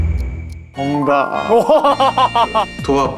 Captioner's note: ding-ding